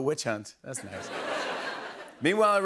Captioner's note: laughter